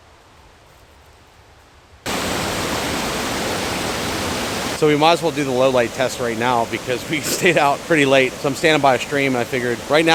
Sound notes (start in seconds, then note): 1.8 waterfall